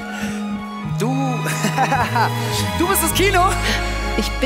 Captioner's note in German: lachen